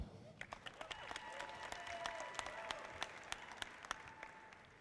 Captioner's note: audience applauding